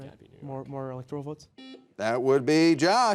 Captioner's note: buzzer beeping